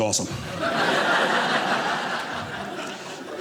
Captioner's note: audience laughing